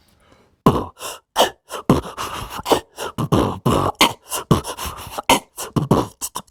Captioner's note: beatboxing energetically